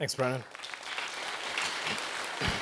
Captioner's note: applause